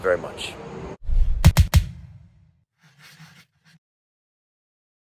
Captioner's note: logo whooshing